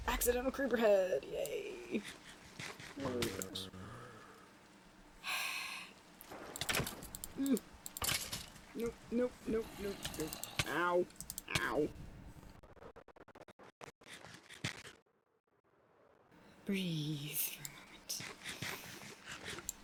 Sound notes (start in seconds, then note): 3.5 sighs